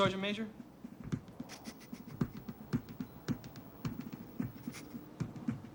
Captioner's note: suppressed giggling